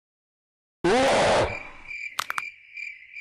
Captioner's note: Chaos man yelling at her